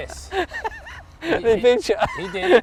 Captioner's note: laughs